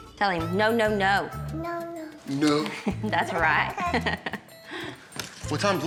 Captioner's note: laughs